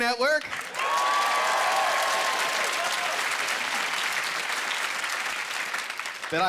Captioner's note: cheering